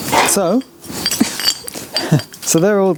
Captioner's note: laughs